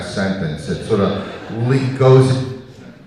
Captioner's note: audience laughing